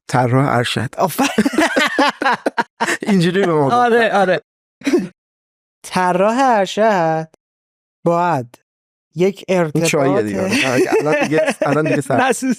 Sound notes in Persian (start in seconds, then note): 1.2 خنده; 10.4 خنده